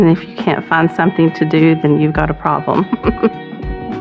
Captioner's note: chucklkles